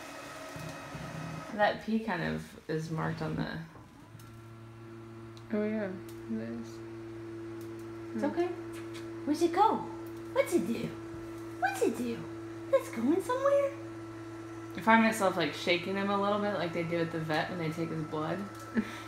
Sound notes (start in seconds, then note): 8.8 kissing sound